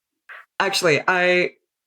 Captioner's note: laughs